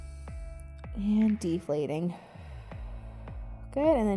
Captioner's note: exhaling